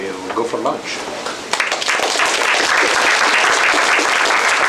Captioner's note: applause